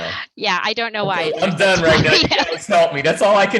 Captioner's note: laughter